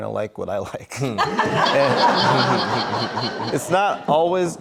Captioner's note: all laughing